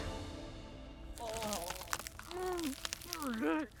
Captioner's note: Bertha grunting